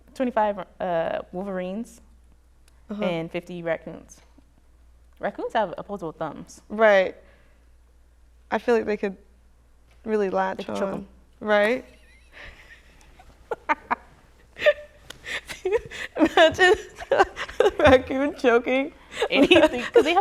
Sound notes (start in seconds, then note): 11.7 laughter